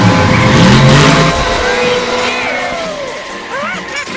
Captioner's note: crashes